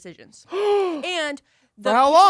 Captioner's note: gasps